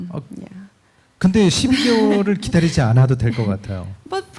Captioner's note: speaking korean